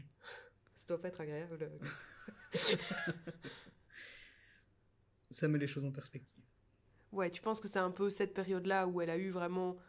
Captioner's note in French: rires